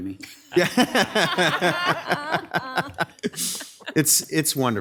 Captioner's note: audience laughs